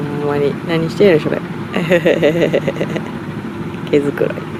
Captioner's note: laughs